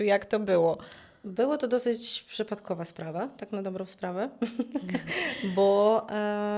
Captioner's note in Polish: śmiech